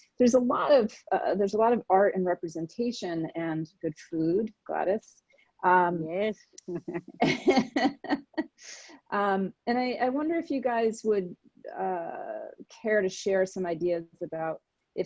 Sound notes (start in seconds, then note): 6.9 laughing